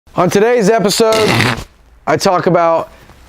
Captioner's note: whoopie cushion goes off